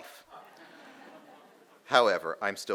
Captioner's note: audience laughing